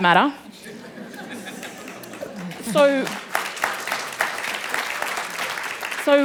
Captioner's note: applause